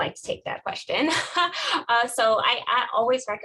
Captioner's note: laughing